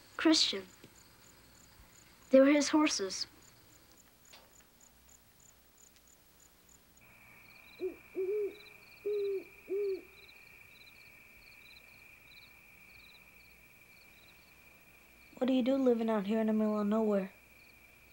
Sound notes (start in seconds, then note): 7.4 owl hooting; 8.1 crickets chirping